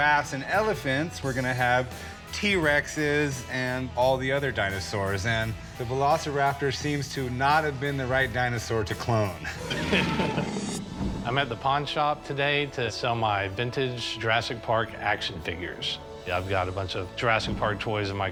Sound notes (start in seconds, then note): 9.4 chuckles; 9.6 dinosaur roar